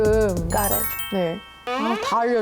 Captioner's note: understanding sound effect